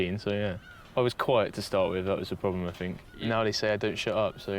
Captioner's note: none